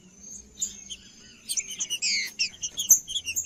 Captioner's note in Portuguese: trinca ferro cantando